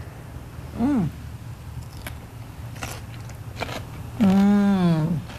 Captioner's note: chewing Sounds